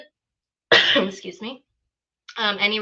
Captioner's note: coughs